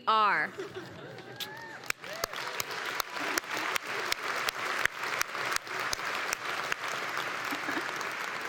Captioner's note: laugh; applause; laugh